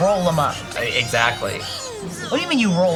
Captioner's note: babbling goofily